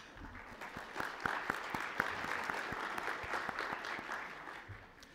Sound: applause

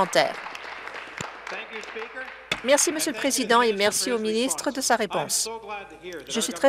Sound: applause

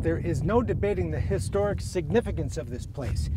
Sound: none

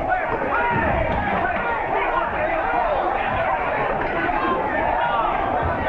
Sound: crowd noise

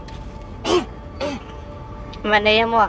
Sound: coughing

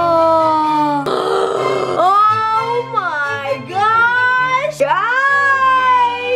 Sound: gasping

